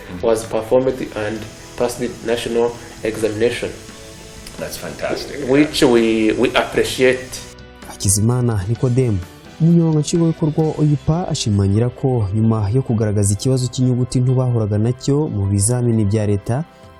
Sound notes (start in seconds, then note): 8.3 speaking in Kinyarwanda